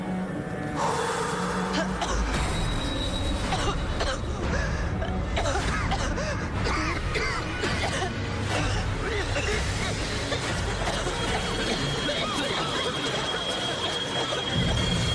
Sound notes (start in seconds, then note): 0.2 blowing, Nicole coughing; 6.2 all coughing